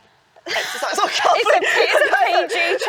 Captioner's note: both laughing